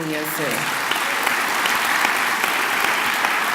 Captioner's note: clapping